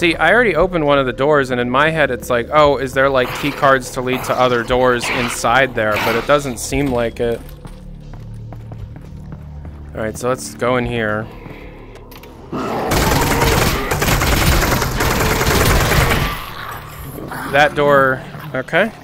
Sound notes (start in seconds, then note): 12.5 zombie Moan